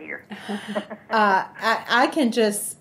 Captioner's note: laughs